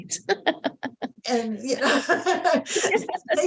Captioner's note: laughing; both laughing